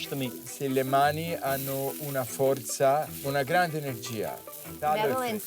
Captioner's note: speaking Italian